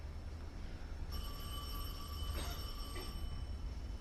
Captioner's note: phone rings